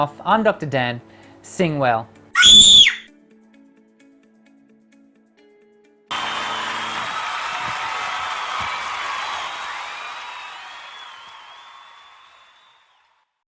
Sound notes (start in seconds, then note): 2.3 scream; 6.1 audience cheering